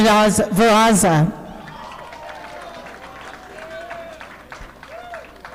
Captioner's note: audience applauding